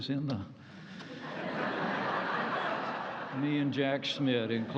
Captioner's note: laughter